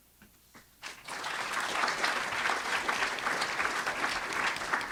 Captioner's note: audience applauds